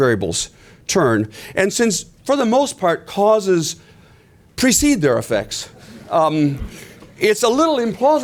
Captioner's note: laughter